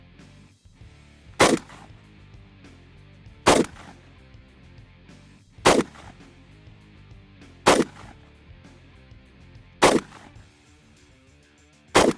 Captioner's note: gunshots